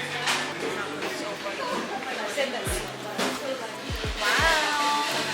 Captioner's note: background chattering